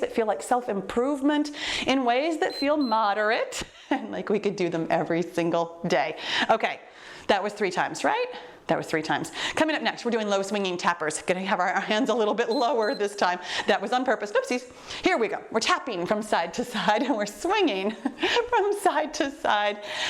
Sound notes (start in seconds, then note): 2.4 timer beeps; 12.4 timer beeps